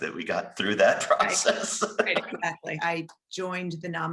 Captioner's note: laughing